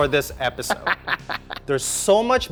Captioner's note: laughs